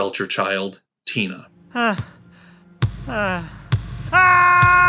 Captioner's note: basketball bouncing; Tina catching her breath